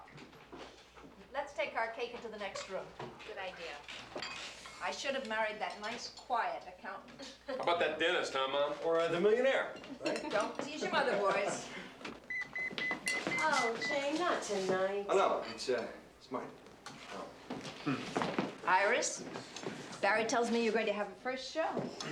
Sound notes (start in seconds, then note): 12.3 beeper sounds